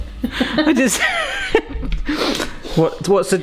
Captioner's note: giggles; wheezing